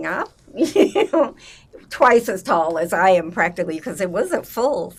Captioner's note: laughing